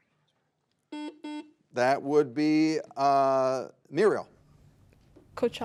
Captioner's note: buzzer beeps